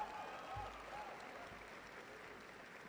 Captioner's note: cheering